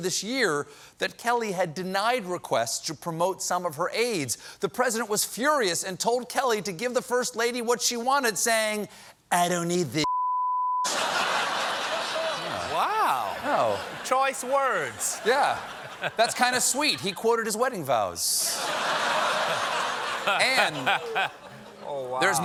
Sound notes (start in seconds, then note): 10.8 laughter